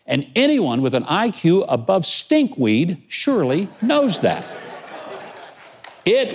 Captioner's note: crowd laughing